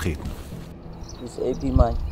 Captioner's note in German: englisch